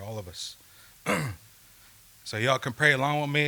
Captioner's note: clears throat